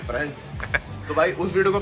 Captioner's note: laughter